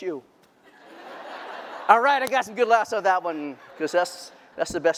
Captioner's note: laughter